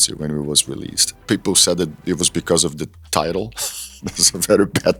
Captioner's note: laughs